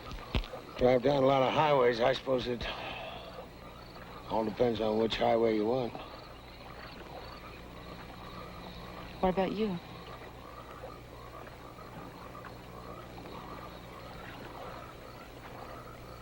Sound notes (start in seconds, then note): none